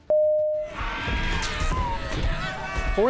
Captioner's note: pteranadon screeching while boy screams